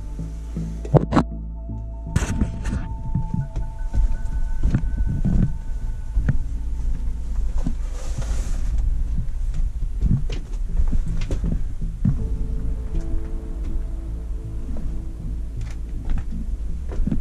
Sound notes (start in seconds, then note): 0.9 muffled shuffling